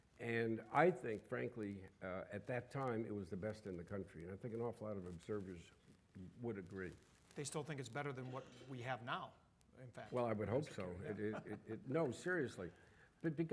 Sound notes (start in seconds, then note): 11.1 audience laughing